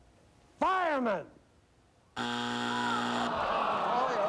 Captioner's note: buzzer